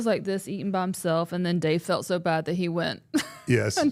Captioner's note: laughs